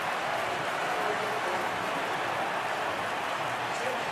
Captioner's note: cheering